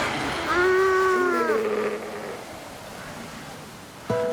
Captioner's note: sea lions groaning